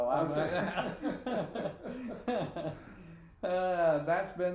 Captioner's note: both laughing